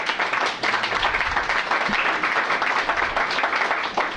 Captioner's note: applause